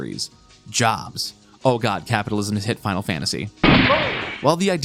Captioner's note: gunshot